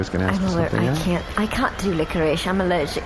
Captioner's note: sexless prosecutor accent; posh accent